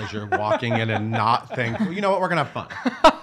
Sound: laughing

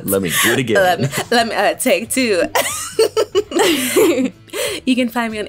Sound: laughs

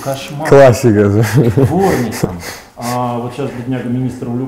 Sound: laughs

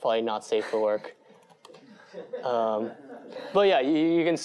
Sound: laughter

